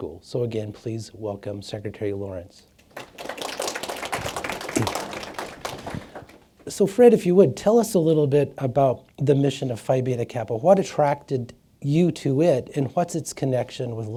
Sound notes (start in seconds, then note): 2.9 audience applause